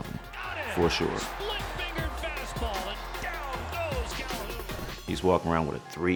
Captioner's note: commentator talking excitedly